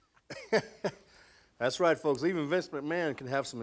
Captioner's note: Vince laughs; laughs